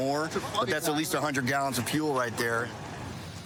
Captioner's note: none